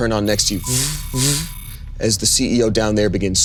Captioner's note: imitating televisions starting